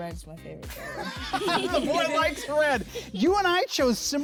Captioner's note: laughs